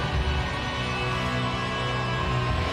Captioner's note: audience continues cheering; ominous music continues